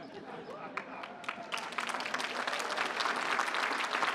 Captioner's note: applause